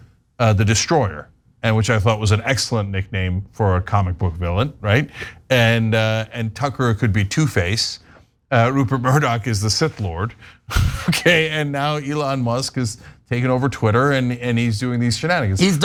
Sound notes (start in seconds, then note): 10.7 laugh